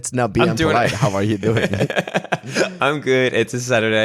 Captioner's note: chuckling